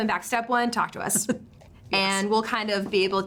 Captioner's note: chuckles